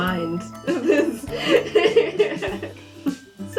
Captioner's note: laughter